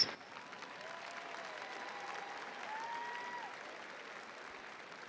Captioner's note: audience applauding